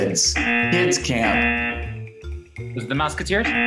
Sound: buzzer rings; buzzer rings

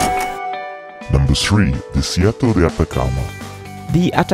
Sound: male Voice

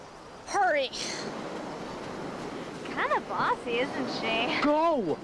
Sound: none

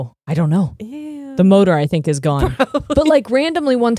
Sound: laughs

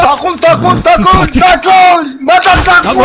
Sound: arabic Language; arabic Language

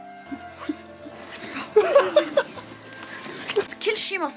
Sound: laughs

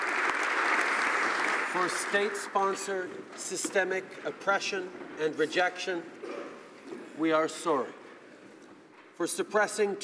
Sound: applause

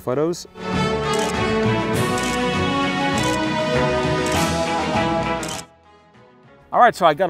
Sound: upbeat music; camera clicking

